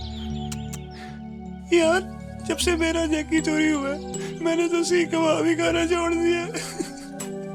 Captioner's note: sobbing